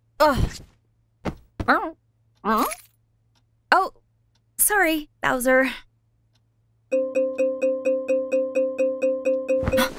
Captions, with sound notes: Ugh Oh, sorry Bowser;; [non-stop beeping]